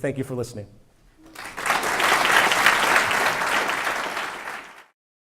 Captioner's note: applause